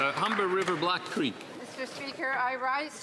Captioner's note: some Applause